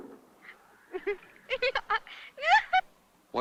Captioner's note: laugh